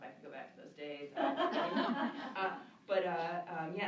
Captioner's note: laughter